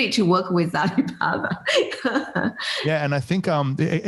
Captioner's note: laughs